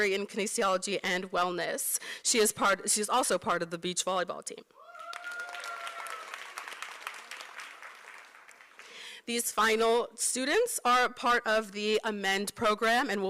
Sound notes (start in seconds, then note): 4.9 applause